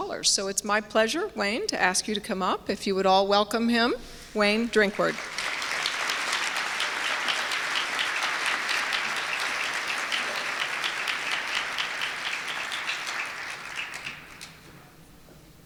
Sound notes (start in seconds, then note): 4.8 applause